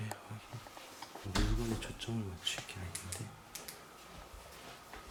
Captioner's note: with small voice; the sound of closing the door